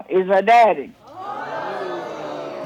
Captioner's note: audience exclaims